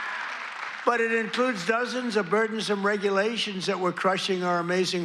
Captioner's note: applause